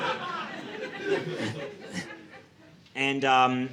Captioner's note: audience laughing